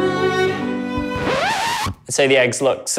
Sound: record scratching

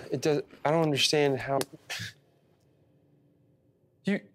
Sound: hand hitting

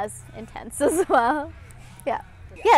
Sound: chuckles

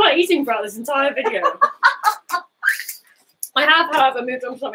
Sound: both laughing

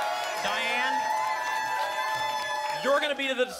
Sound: applause and cheering cont

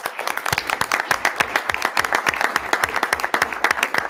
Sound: audience applauding

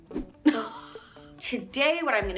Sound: laughs

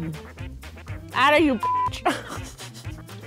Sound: beep

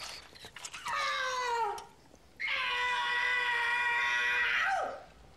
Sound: Grandmama screaming

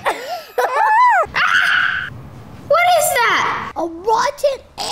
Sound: laughing; screaming

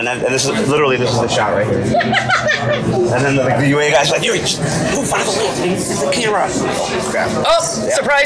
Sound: laughs

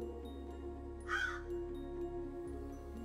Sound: crow caws

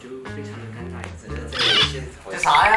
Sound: sniffing

